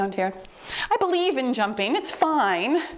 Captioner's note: timer beeps